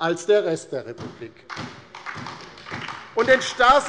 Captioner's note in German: Beifall bei der LINKEN und der SPD